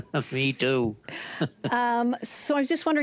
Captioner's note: laughter